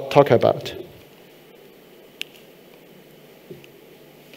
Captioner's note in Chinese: 沉默